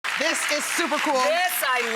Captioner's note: crowd clapping